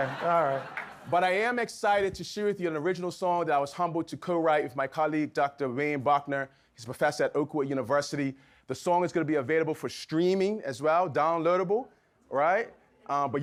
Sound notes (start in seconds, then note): 0.0 audience laughs